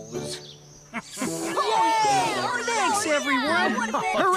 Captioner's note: machines Cheering